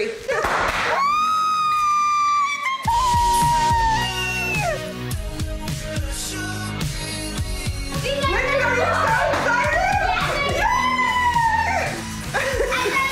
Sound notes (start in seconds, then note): 0.6 popping; 2.0 squeals; 8.6 cheering